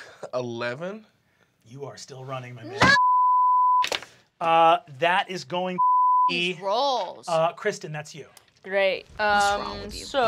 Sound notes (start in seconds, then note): 5.8 beep